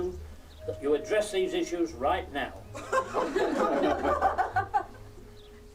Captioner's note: laughter